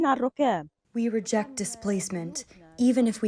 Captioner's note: through translator